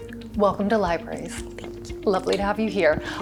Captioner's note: quietly